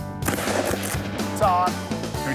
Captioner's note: gun firing